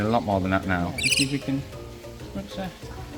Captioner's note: birds chirping